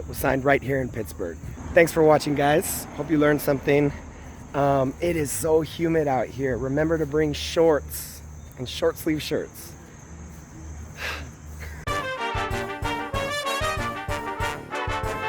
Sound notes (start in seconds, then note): 10.9 sigh